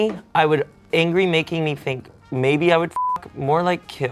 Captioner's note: beep